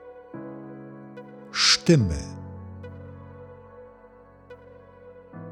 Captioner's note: german